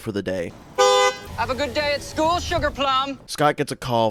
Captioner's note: car horn